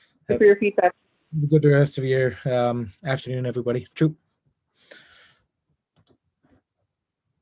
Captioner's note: foreign language